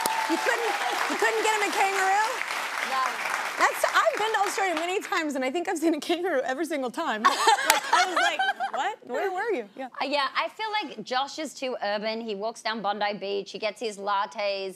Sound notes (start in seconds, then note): 0.0 audience applauding; 7.2 laughs